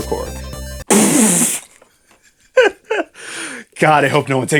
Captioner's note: laughs